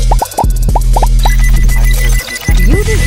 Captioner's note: electronics ring